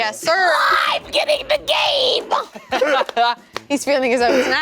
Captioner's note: laughing